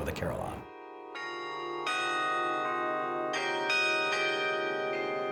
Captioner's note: bells chiming